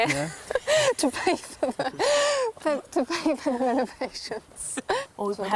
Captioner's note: laughing